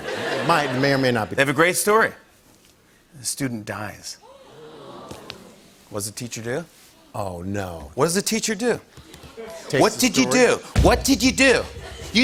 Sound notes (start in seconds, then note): 0.0 laughter; 4.4 audience "Oohs"